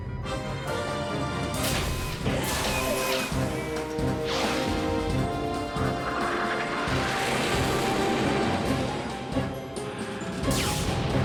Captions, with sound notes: THEY'LL NEVER MAKE IT IN TIME. (MECHANICAL WHIRRING) (JET RUMBLES OFF)